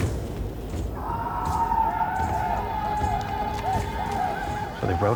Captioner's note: war cries